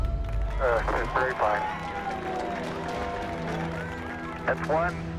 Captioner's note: cheering and applause